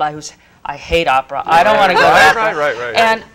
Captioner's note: laugh